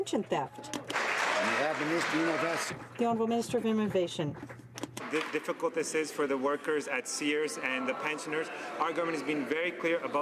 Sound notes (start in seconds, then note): 3.6 some Applause